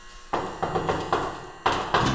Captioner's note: knock, knock